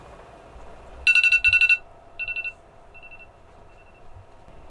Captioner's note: phone alarm